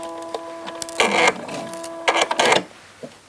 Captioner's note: humming, short creaking